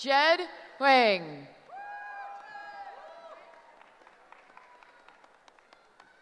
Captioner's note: cheering